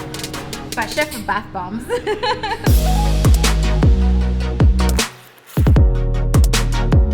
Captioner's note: laughs